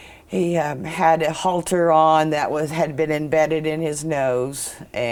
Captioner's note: none